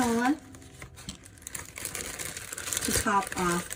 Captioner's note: plastic bag rustling